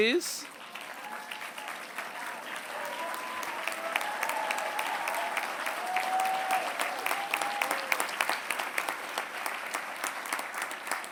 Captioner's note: applause